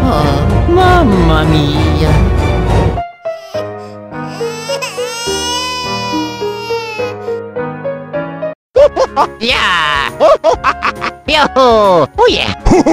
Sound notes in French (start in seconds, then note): 4.4 il pleure